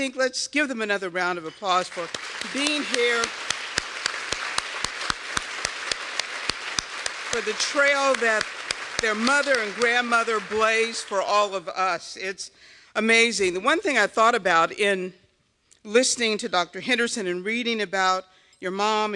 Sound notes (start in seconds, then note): 1.7 applause